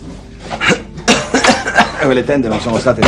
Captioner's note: coughs